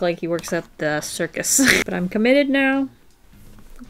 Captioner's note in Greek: Γελάει